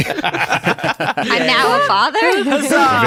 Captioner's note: laughs